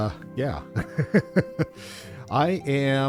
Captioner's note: laughter